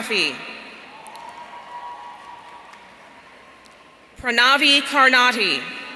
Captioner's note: audience cheering